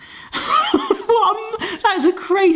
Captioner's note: laughing